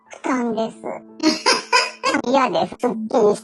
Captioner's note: laughs